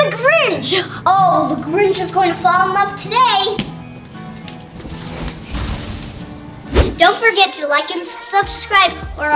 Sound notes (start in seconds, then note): 5.0 enchanting sound